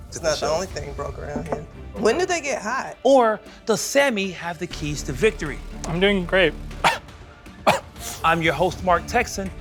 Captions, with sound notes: It's not the only thing broke around here. When do they get hot? Or does Sammy have the keys to victory? I'm doing great. [ Coughs ] I'm your host, Mark Techson,